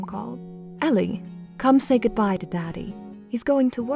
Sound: voiceover

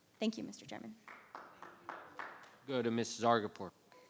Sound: audience clapping

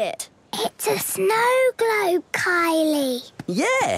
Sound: whispering

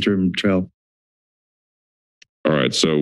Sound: silence

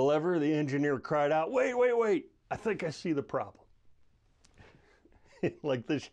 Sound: chuckling

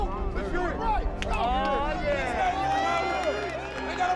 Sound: players cheering; crowd cheering

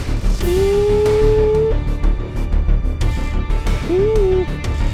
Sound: imitating deer call

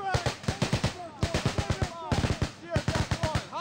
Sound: rapid, continuous gunfire

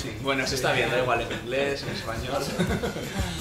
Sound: laughs

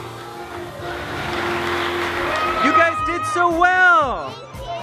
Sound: audience applauds

